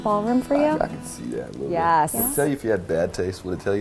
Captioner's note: murmurs